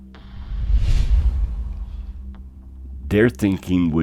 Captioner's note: air whooshing